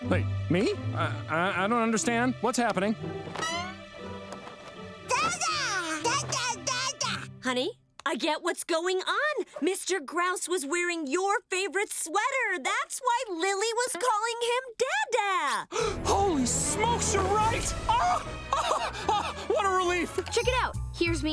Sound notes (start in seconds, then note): 18.4 laughing